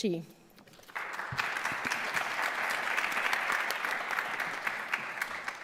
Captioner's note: audience clapping